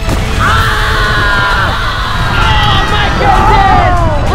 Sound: all screaming

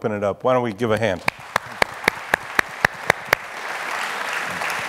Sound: audience applauding

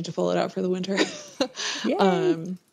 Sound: laughs

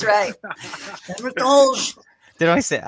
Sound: speaking in foreign language

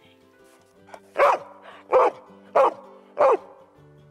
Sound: dog barking

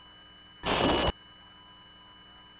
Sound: radio static

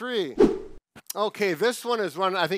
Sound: swift whooshing

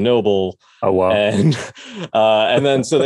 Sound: both laugh

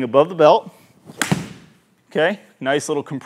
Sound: golf club thudding

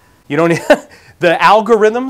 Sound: laughing

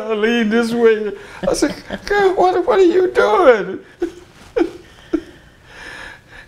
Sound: laughter

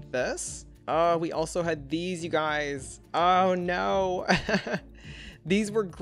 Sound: chuckles

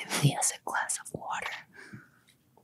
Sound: none

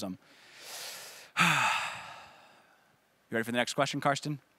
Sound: sighs

